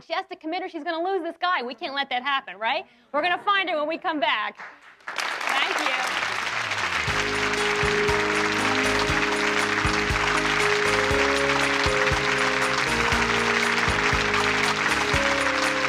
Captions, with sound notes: She has to commit or she's gonna lose this guy. We can't let that happen, right? We're gonna find it when we come back. (audience applauding) Thank you. (soft peaceful music)